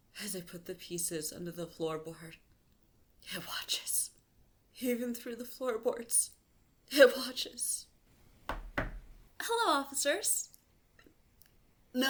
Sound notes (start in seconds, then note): 8.4 knock, knock